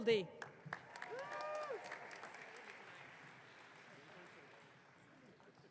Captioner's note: audience cheering